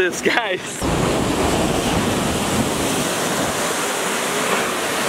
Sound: waves crashing

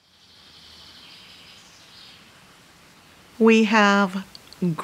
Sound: birds chirping

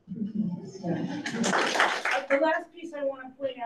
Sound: audience claps

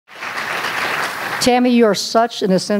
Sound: applause

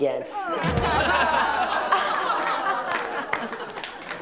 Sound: all laughs

